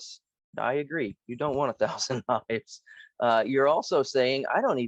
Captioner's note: laugh